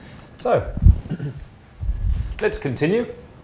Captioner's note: clears throat